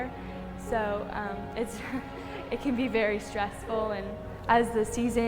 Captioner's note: laughs